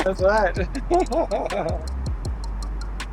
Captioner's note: laughing